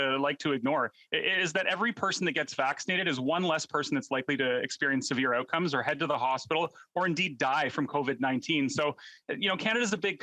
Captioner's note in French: voix de l'interprète